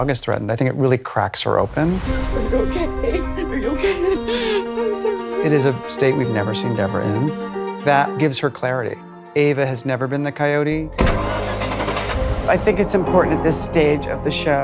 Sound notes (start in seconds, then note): 2.4 sobbing; 11.0 engine starting